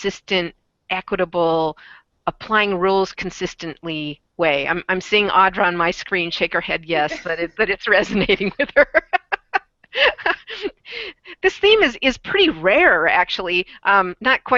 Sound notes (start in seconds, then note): 7.0 laughs; 10.9 laughs